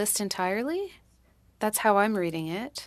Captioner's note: speaking french